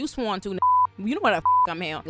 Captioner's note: beep